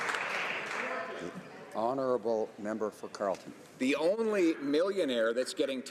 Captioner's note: some Applause